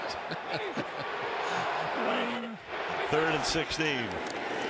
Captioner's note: laughs